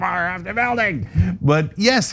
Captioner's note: laugh